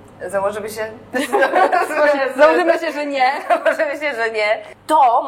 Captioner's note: laughs